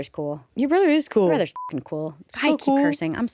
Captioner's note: beep